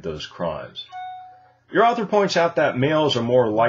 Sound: whistle sound

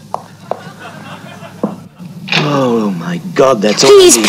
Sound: crowd laughs

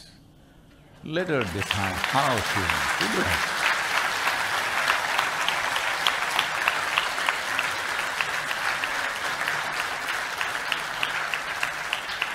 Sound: applause

